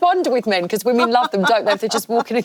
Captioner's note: laughing